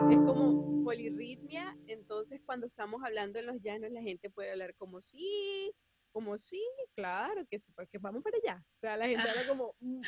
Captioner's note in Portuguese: varia a entonação